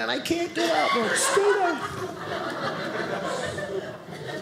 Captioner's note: audience laughing